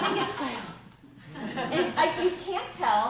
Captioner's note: laughter